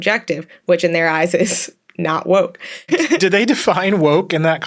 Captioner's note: laughs; chuckles